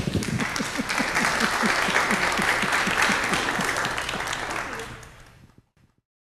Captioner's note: applause